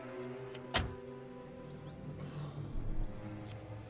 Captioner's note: door slams